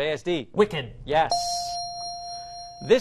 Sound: ding

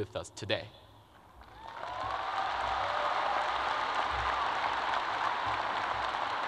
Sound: crowd applauds and cheers

